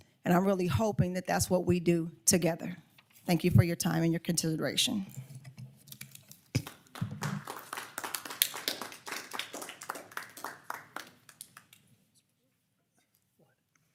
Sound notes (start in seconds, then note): 6.5 crowd clapping